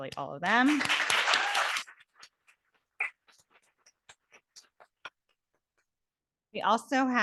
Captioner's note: audience applauding